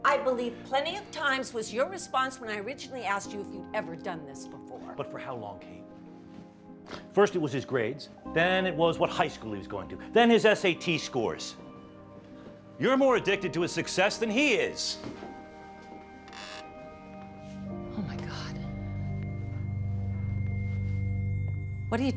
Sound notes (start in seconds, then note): 16.2 floorboards creaking; 19.5 tense and ominous electronic music